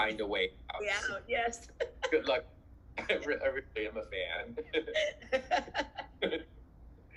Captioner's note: laughs